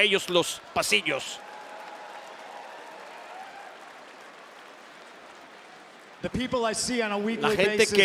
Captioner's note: applause